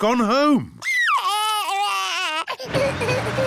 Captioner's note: crying; engine rumbles